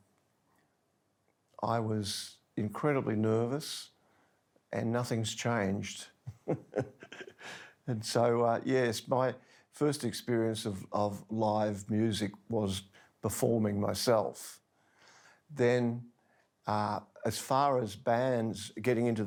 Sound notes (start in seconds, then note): 6.2 softly chuckles